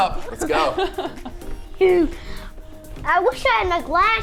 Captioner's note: laughing